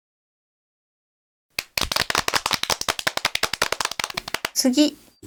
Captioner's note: applause